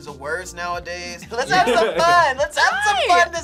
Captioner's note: laughs